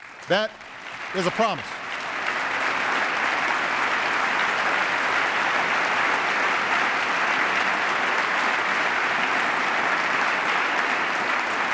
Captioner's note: applause